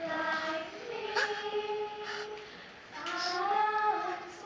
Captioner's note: sobbing